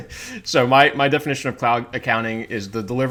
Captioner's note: laughs